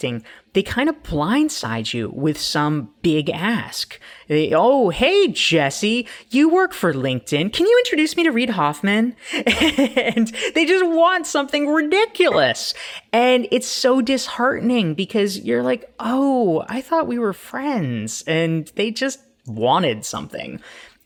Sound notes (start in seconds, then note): 9.2 laughs